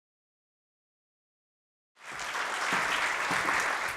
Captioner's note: applause